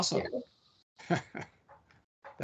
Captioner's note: laughing